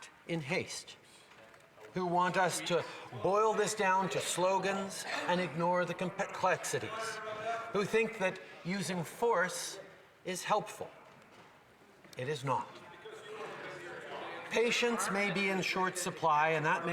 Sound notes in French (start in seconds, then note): 1.0 voix de l'interprète